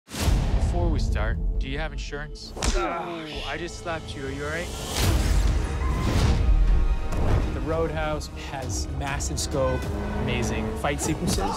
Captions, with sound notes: (dramatic music) - Before we start, do you have insurance? (hand slapping) (fighter grunting) I just slapped you, are you alright? (rousing dramatic music) - The "Road House" has massive scope, amazing fight sequences,